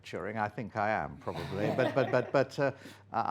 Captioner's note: laughter